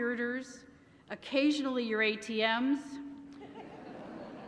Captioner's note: laughter